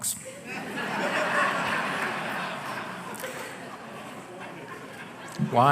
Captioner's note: laughter